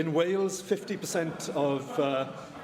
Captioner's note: laughter